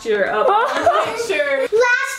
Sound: person laughing

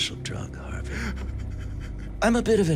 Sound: sobbing

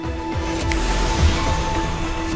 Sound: snaps

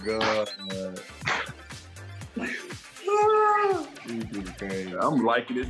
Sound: laughing, clapping

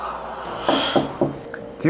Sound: knock knock knock

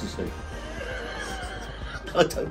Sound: both laughing

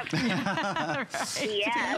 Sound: laughter

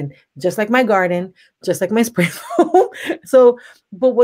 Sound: laughs

